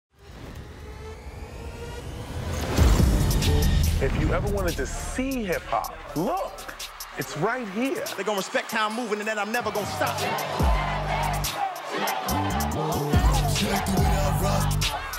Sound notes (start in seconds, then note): 10.4 upbeat music paying; 12.0 crowd shouting